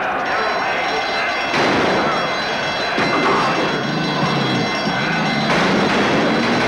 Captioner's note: gunshots & Alarm Siren